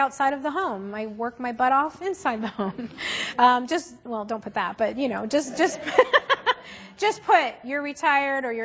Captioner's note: laughter